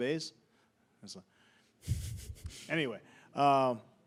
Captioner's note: chuckling